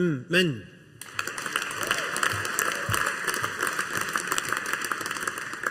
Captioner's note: audience applauding